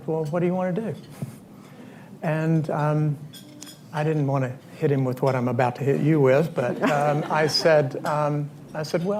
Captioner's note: laughter